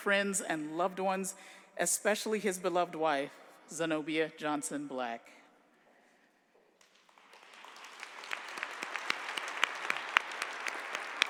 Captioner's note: applause